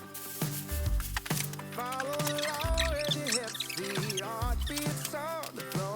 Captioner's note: laughs